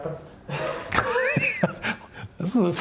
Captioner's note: laugh